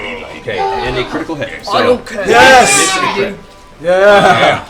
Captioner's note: cheering